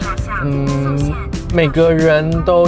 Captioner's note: thinking sound